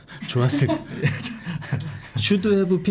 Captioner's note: talking in past tense full of remorse